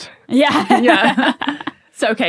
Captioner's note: laughs